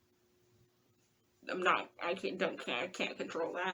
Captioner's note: stammers